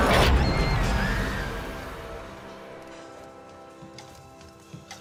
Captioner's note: screaming subsides